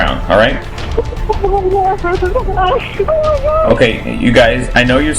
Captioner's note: crying